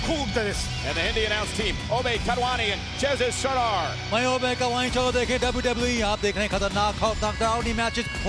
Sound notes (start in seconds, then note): 4.2 speaking in Hindi